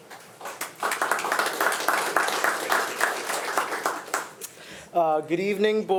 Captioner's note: attendees and board members applauding